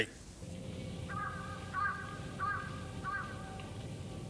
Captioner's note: cawing